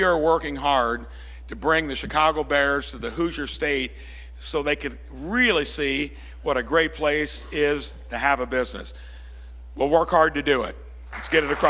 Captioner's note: applause